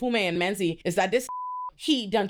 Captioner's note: beep